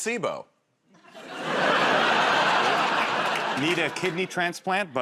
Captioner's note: laughter